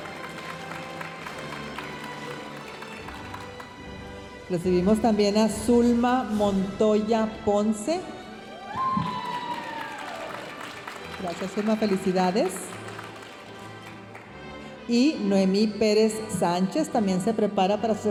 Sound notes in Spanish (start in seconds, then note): 0.0 aplausos de la audiencia; 8.5 aplausos y vítores de la audiencia